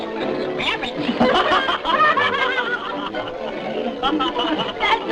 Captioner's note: raucous laughter